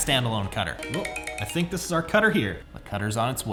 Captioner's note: phone ringing